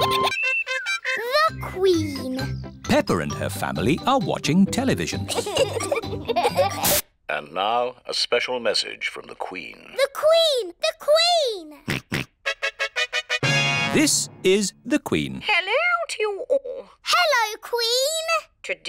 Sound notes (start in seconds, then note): 5.2 both giggling; 12.1 snorts; 12.4 trumpet fanfare on tv